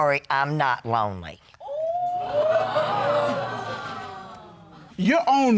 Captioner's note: audience exclaim